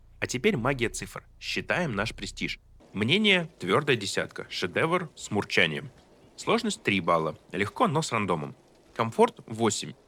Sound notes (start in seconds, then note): 4.0 Masterpiece with purring